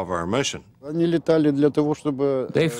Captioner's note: speaking Russian